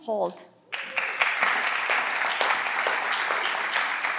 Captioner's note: everyone claps